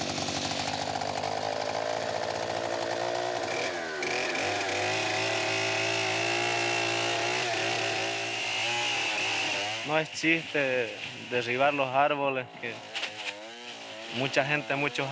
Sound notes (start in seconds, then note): 0.2 chainsaw buzzing; 10.2 speaking in foreign language